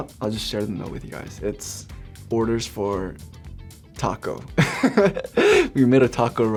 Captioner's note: laughs